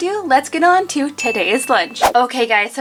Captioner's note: bell dings